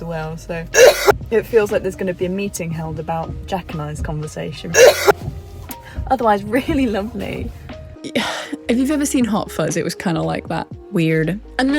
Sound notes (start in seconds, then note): 0.8 cough; 4.8 cough